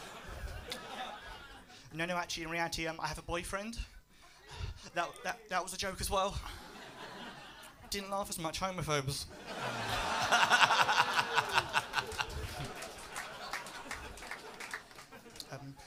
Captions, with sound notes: No. No. Actually, in reality, I have a boyfriend. That was a joke as well. [LAUGHS] Didn't laugh as much-- homophobes. [LAUGHTER]